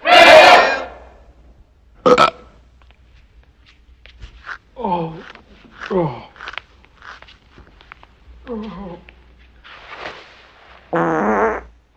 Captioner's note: burps